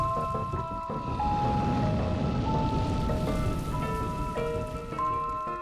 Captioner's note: breathing fire